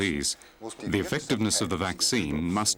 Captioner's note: speaking in foreign language